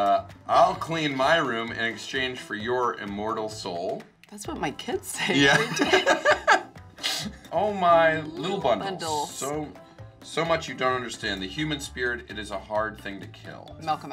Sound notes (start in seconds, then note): 5.4 both laugh